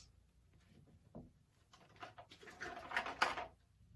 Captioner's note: rustling of toys